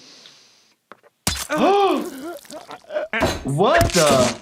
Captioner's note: gasps